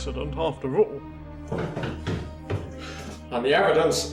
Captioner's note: footsteps upstairs